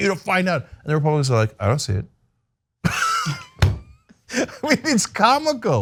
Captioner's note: laugh